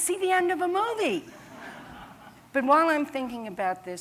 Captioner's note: laughter